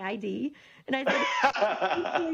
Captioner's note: laughing